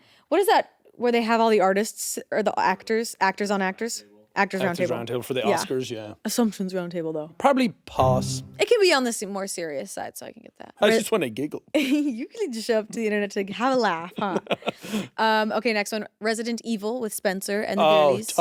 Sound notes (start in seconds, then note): 14.1 Jacksepticeye chuckling